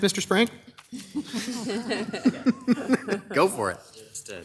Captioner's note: council members laugh